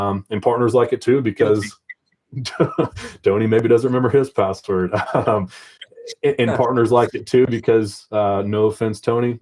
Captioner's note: laughs